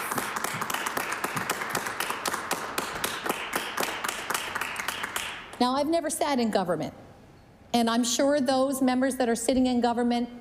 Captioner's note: applause